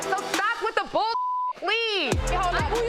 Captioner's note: beep